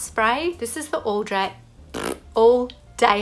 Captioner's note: blows a raspberry